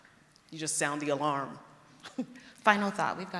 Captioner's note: laughs